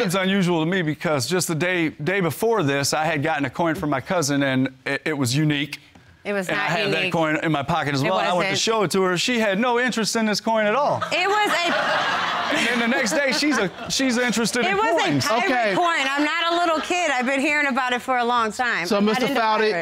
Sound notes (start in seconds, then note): 11.0 audience laughing